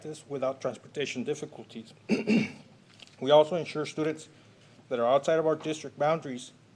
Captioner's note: clears throat